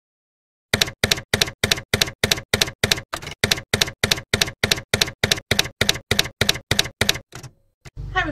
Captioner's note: typewriter keys clacking